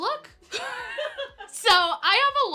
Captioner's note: laughing